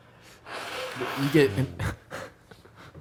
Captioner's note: loud nose blow